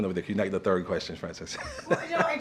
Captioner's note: laughter